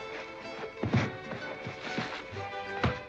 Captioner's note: thump